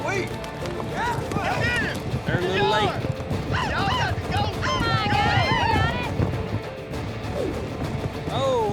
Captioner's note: all shouting